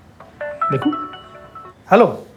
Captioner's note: phone rings